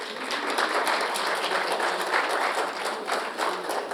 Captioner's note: audience applauding